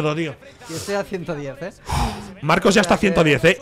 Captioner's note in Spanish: resopla